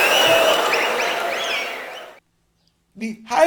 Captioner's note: wild applause and cheering for 22 seconds